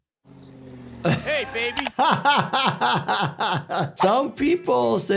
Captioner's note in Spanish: el doctor se ríe